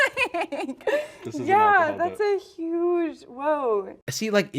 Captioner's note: laughs